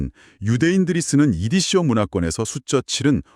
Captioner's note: Yiddish